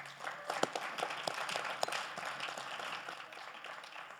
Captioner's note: audience applauds